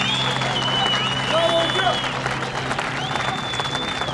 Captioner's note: they applaud